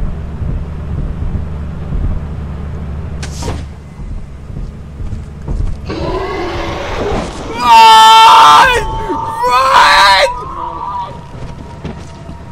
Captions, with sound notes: *DOOR OPENS* *stomp* *stomp* *STomp* *stomp* *STomp* *STOMp* *stomp* *STomp* *STOMp* *STOMP* *bEaSTiaL shRIeKS oF ThE UNdeRwORld* RUUUUUUN!!! RUUUUUUUUUUUUUUUUUUN!!!!